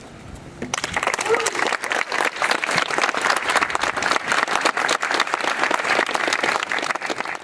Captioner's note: applause